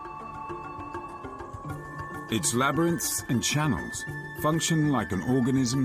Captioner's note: dramatic music; birds chirping